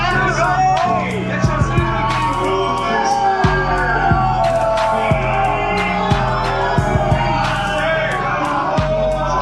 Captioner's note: crowd continues to heckle